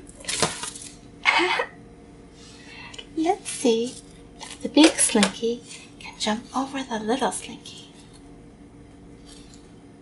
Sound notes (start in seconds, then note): 1.2 laughs